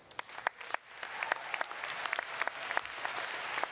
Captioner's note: audience applauds